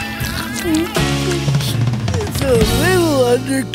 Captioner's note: chomping